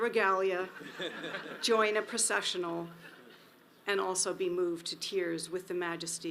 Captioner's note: audience laughs